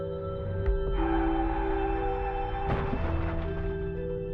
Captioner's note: tires squeal, crash